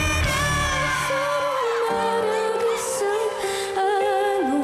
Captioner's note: crowd cheers